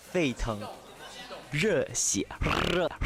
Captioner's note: excited